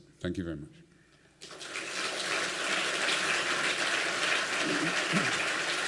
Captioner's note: applause